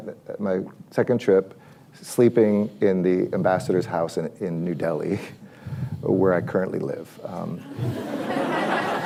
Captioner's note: laughter